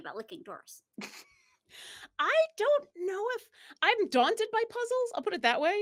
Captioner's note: chuckles